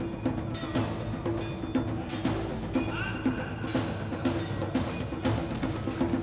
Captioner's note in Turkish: Kılıç sesleri